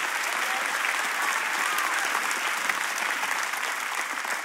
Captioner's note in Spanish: Aplausos